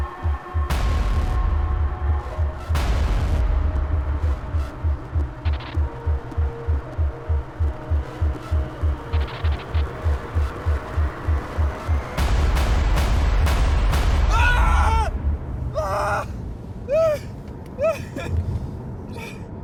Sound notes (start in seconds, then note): 4.8 intense music continues; 14.3 Alan screaming